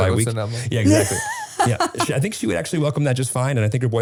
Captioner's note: laughing